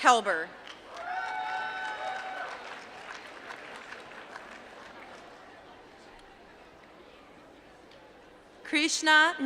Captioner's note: applause